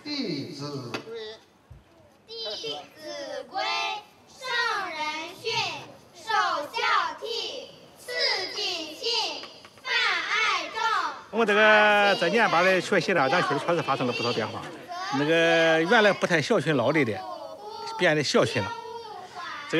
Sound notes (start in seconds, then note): 2.3 children reciting text in Chinese; 11.4 speaking Chinese